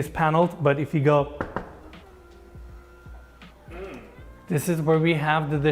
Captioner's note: knocks cabinet